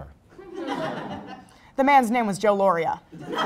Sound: crowd Laugh; crowd Laugh

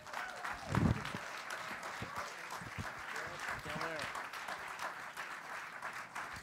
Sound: applause

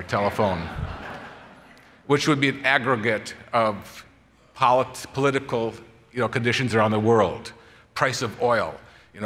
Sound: laughter

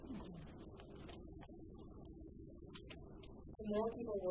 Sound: murmurs in background

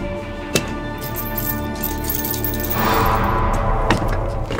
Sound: chains rattling

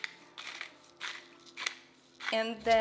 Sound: grinder scratching

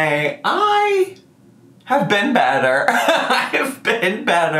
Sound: laughs

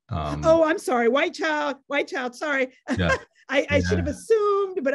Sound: laughs

